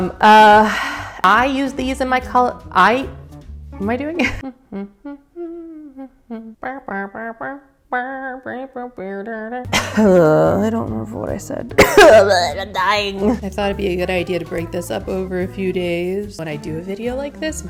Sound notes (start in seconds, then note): 4.4 humming; 11.7 cough